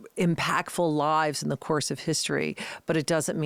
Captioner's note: none